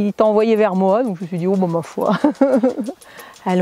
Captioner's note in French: Rires